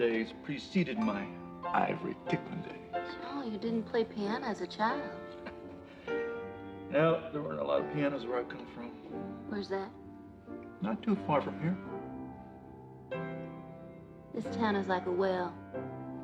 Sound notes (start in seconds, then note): 5.2 chuckles